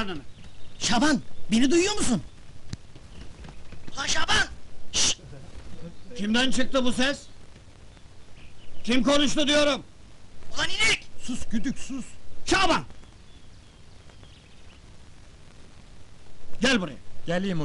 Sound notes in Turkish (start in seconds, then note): 2.4 telsi̇zden ses geli̇r